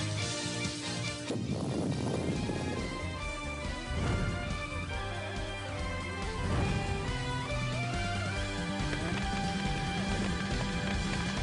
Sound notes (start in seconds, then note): 1.3 explosion booms